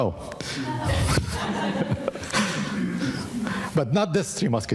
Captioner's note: audience laughing